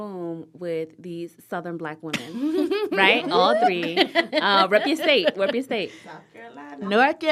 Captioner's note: laughter